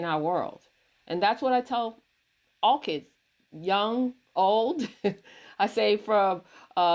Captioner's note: chuckles